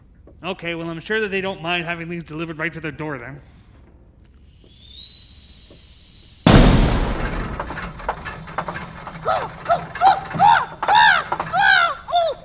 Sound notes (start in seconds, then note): 4.6 steam blowing; 6.4 explosion booming; 9.2 Wendell squawking